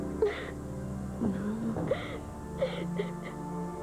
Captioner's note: Elle éclate en sanglots